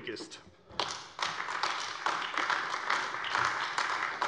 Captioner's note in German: Beifall AfD